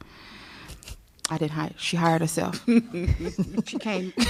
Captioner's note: laughter